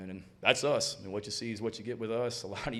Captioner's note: chuckles